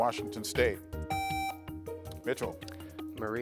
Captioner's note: buzzer beeps